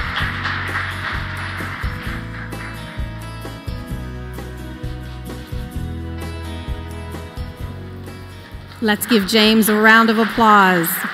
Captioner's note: applause